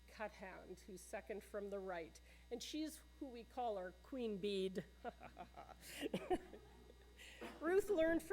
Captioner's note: laughter